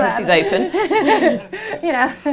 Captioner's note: laughter